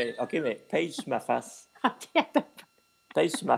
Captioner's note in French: rire